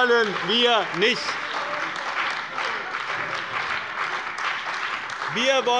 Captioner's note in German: Beifall bei dem BÜNDNIS 90/DIE GRÜNEN und der CDU